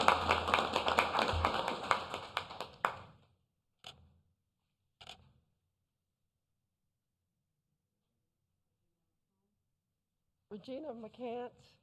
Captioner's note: applause